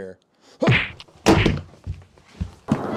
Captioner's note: impact